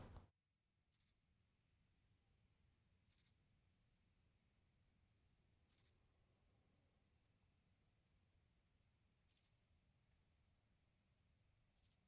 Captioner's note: crickets chirping